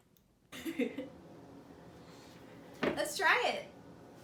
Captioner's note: laughter